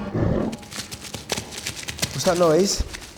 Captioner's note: snarls; paws scurrying